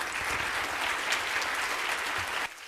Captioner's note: audience applauds